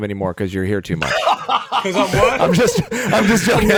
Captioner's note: Dean laughs